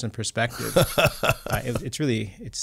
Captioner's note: laughs